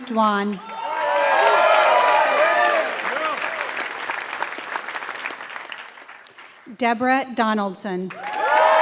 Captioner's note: applause; applause